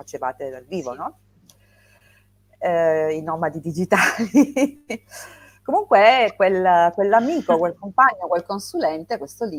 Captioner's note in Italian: risate